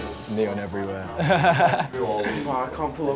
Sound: laughing

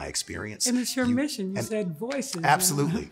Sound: chuckles

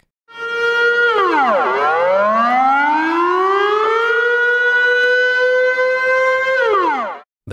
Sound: really loud siren omfg it's so loud standing here

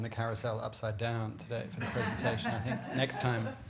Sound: laughter

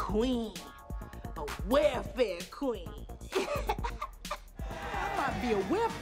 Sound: laughs

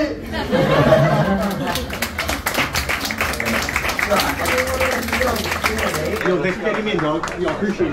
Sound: claps

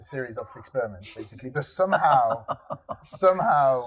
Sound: laughing

